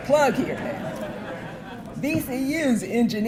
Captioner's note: audience laughing